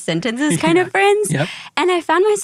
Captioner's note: laughs